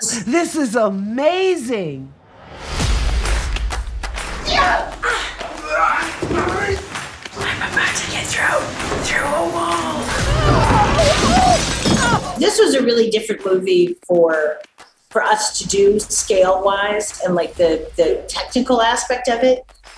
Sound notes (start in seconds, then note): 2.2 upbeat music; 4.4 people grunting; 9.2 people grunting; 10.2 glass shattering